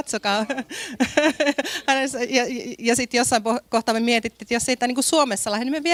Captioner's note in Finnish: naurua